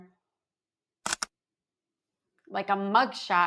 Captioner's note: camera clicking